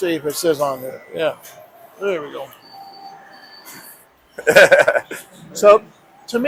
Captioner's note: laughs